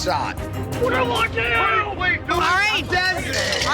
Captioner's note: man yelling